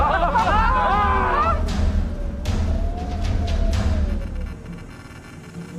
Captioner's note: carolers yelling; tense dramatic music; wind whistling